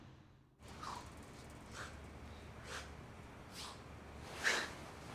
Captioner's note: heavy breathing